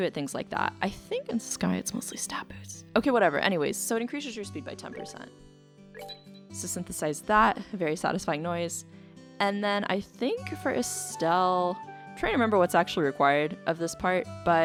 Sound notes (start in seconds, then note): 5.8 ringing